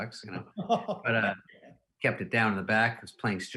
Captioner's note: laughing